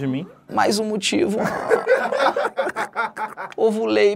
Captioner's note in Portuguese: risadas